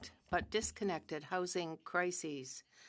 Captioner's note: speaking french